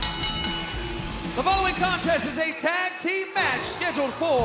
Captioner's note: bell ringing